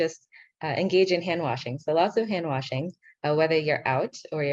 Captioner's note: speaking in foreign language